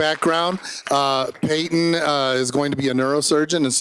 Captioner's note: applause